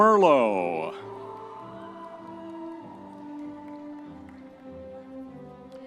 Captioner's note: audience members cheering